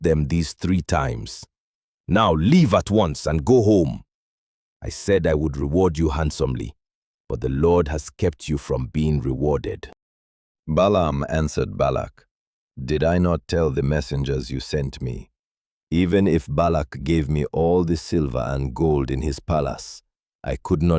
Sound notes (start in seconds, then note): 10.0 calmly; 19.8 thoughtful